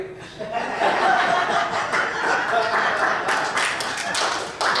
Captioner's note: audience laughs and applauds